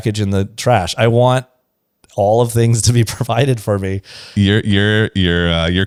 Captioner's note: laughs